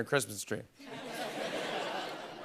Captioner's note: laughter